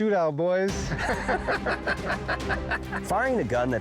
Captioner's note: laughter